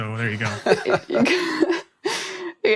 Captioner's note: laughter